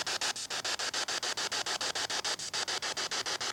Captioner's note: static hissing